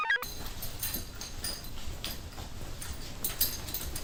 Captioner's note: computer chirps; keys jangle